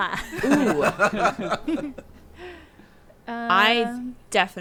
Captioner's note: group laughing